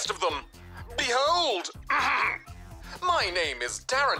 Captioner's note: clears throat